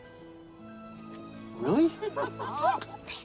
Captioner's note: laughing